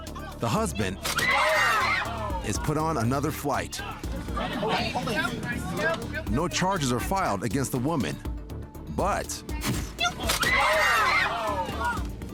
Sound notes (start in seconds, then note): 1.1 woman screams; 3.8 indistinct chattering; 10.0 woman screams